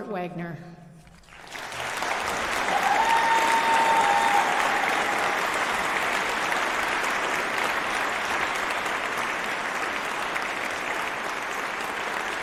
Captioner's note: applause